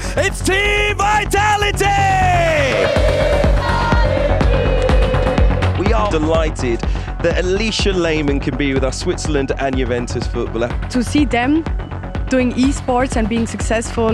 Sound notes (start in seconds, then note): 2.2 crowd chanting